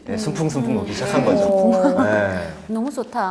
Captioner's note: sounds of agreement